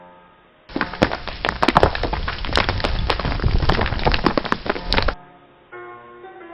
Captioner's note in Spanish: Sonido de escavando tierra